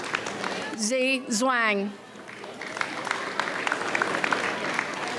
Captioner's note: audience applauds